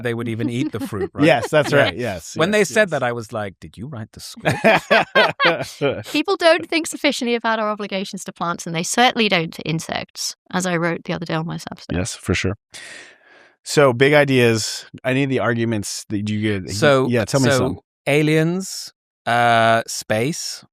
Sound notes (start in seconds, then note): 4.4 laughter